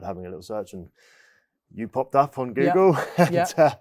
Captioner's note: chuckles